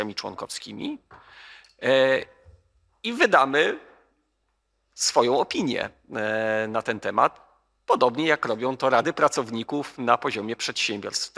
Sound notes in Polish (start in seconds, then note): none